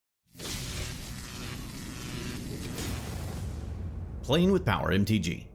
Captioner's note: electricity buzzing